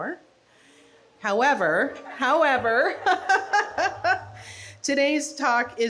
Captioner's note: laughs